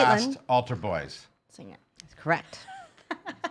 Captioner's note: laughing